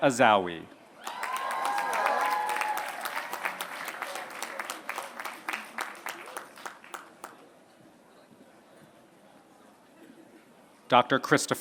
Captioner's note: applause